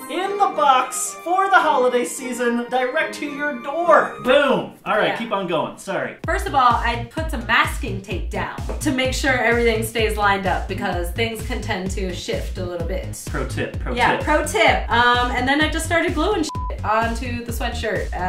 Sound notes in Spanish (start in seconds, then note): none